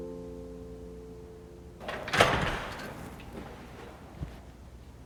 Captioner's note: door opening